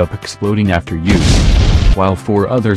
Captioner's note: explosion Sound Effect